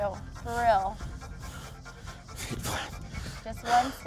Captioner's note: panting